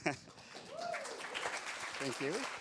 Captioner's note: applause